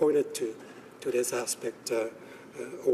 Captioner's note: speaking alternate language